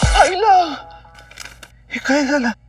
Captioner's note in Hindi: none